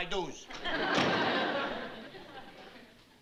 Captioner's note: laughter